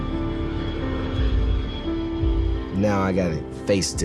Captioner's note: plane jets roaring